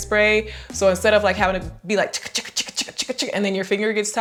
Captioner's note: vocalizes